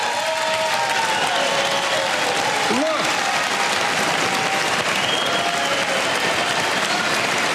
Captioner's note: applause